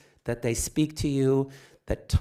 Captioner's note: none